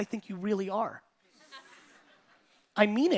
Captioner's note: audience laughing